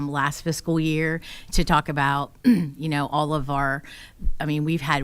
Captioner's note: clears throat